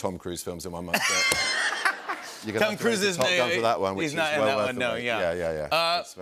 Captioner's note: laughter